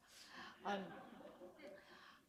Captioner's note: laughter